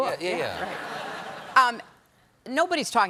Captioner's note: laughter